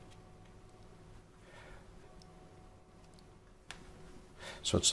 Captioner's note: silence